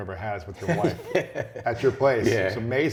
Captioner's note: laughter